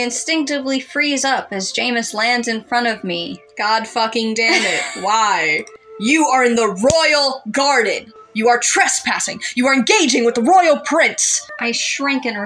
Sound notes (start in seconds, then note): 4.5 laugh